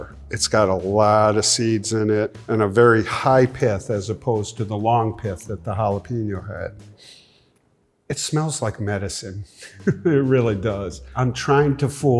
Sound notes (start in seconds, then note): 6.9 inhales deeply; 9.6 chuckles